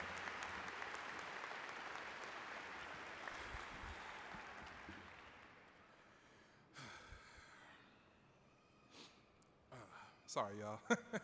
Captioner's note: applause